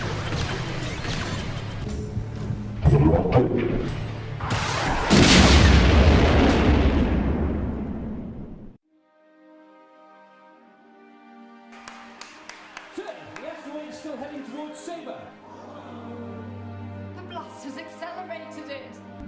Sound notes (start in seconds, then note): 0.2 lasers blasting; 3.1 Jarova speaking in foreign language; 4.5 laser blasts; 4.9 explosion rumbles; 9.4 slow orchestral music; 11.7 group applauds; 15.4 group gasps